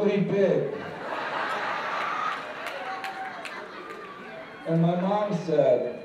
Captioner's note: laughter